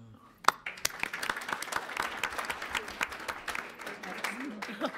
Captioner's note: audience applauds